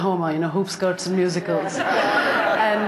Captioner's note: laughter